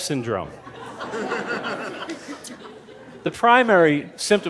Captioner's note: laughter